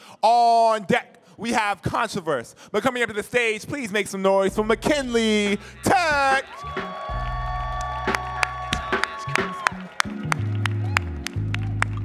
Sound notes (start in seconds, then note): 5.1 audience cheering; 8.7 upbeat music